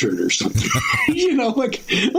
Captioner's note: laughing